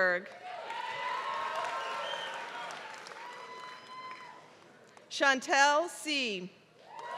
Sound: applause; applause

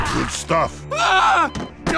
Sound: Medic screams

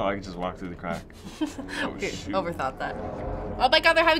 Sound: chuckling

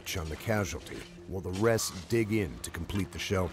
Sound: voiceover

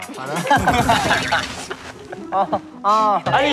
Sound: fails to hold in laughter

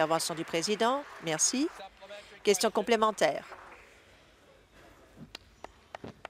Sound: applause

